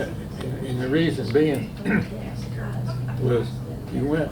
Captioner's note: clears throat